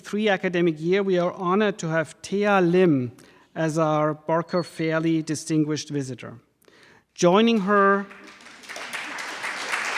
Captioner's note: applauding